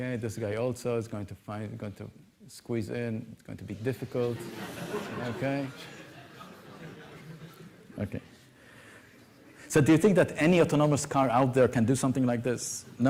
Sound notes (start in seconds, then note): 4.2 laughter